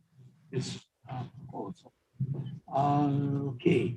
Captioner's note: faintly speaking